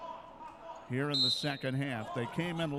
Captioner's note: referee whistling